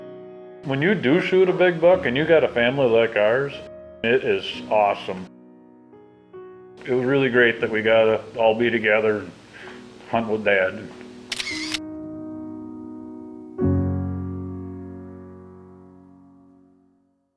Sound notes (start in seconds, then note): 11.3 camera shutter; 13.2 instrumental music